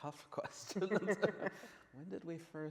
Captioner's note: men laughing